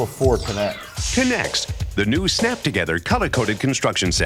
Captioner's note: voiceover